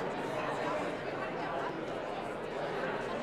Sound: crowd chatting

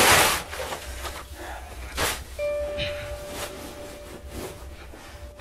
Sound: heavy breathing

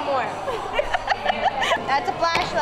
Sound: laughter

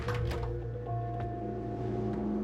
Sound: doors click

